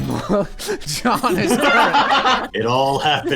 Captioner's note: laughter